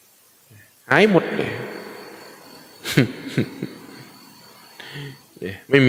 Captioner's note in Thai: เสียงหัวเราะ